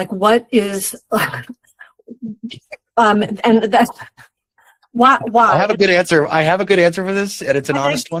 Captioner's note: chuckles